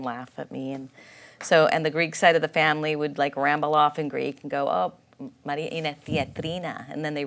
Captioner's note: speaks in Greek